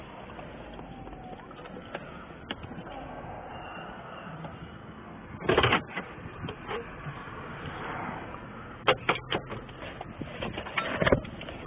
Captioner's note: sirens